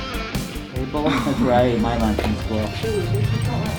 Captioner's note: laughing